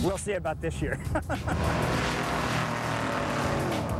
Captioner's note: laughs; engine revving